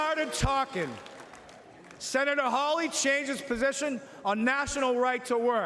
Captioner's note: cheering and Applause